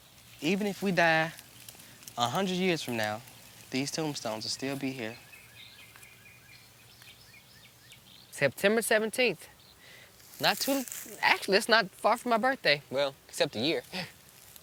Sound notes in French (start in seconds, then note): 5.9 gazouillis d'oiseaux